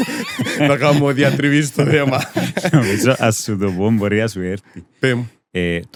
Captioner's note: laughs